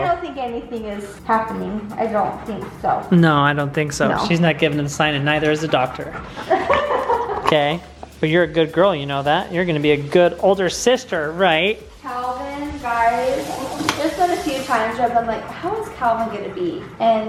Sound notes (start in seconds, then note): 6.4 laughs